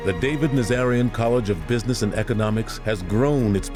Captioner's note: none